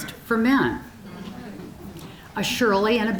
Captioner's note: audience chuckling